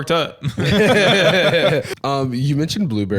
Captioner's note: all laughing